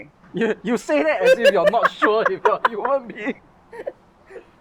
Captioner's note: lLaughs